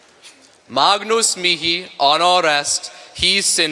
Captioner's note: speaking latin